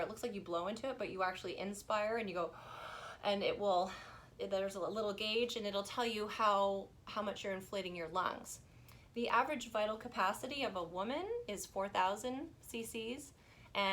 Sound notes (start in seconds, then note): 2.6 inhales